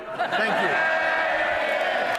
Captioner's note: applause